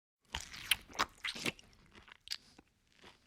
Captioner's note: chewing sound